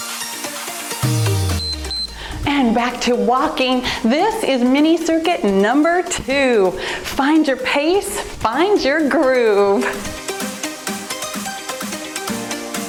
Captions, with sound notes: (timer beeps) And back to walking, this is mini circuit number two. Find your pace, find your groove. (cheerful music)